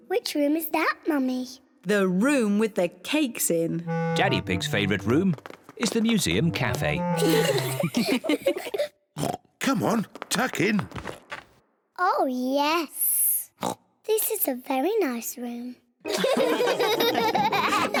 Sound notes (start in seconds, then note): 7.0 all giggle; 9.2 oinks; 13.6 oinks; 16.0 all laugh